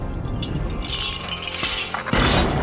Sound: chain clanking

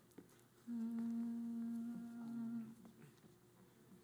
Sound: group humming

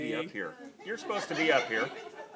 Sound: laughter

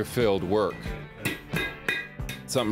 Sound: metal tapping

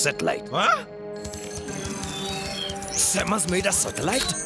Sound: beeping

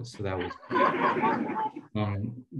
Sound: laughter

